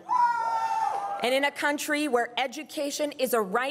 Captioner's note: crowd cheering and applauding